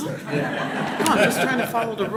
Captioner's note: laughter